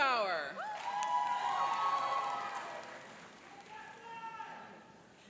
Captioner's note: cheering and applauding